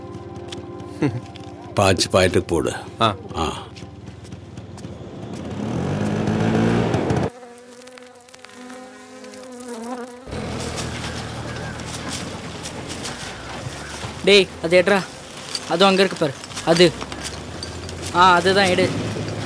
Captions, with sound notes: Fill 5 points (Scooter engine revving) (Bees buzzing) (JCB sound) Hey, pick that. It’s right there. There... Yes, that iron coin.